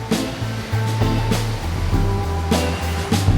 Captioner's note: waves crash